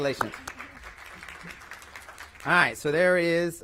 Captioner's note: applause